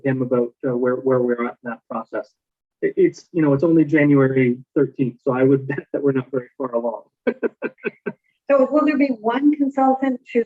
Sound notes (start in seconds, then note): 7.2 laughing